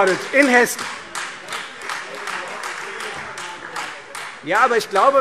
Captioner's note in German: Beifall Freie Demokraten - Zurufe